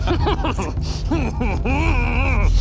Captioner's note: hrrhrrhrr